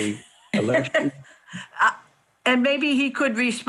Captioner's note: laughs